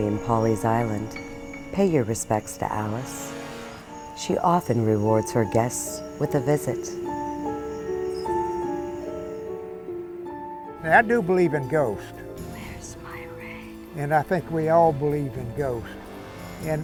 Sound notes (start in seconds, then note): 12.1 whispering